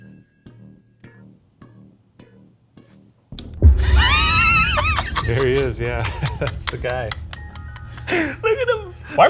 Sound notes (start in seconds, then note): 3.8 chuckles; 3.8 chortling